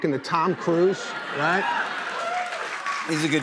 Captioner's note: cheers and applause